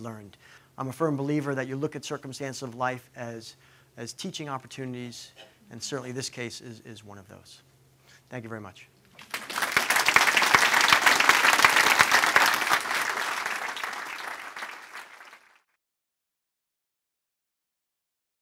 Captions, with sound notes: I'm a firm believer that you look at circumstances of life, as teaching opportunities. And, certainly this case is one of those. Thank you, very much! [Clapping]